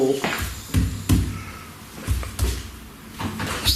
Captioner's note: loud banging